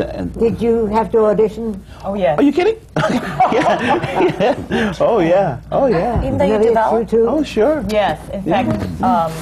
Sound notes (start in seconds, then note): 3.0 laughter